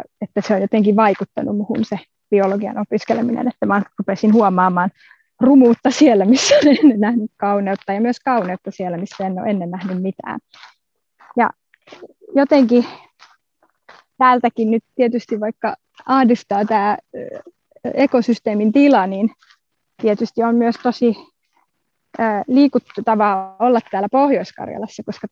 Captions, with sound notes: that it has affected me somehow. I started noticing ugliness where I used to see beauty. [Laughs] But also, beauty where I used to see nothing. Even though I'm worried about the state of the ecosystem here, - it makes me emotional to be here in North Karelia.